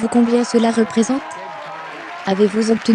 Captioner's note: audience cheering and applauding